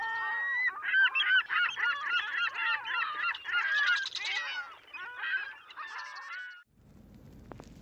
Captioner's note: gull noises